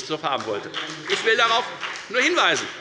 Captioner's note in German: Beifall bei der FDP